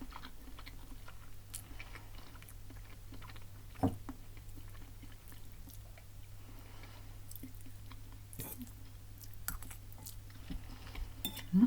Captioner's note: nomNomNom